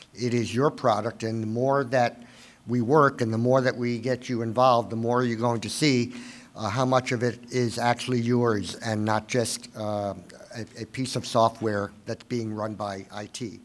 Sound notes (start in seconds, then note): none